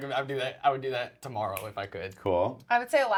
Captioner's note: snaps